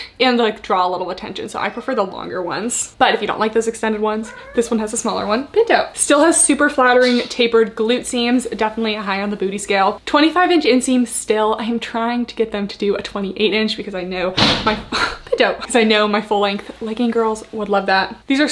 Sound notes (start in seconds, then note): 3.9 cat meows; 14.3 bump